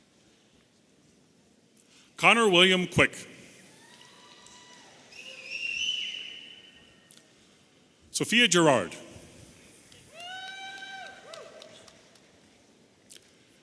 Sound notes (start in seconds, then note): 5.0 audience whistling